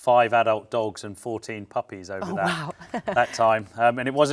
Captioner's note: chuckles